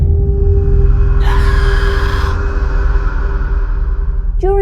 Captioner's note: screaming